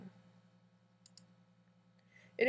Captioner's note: clicking sound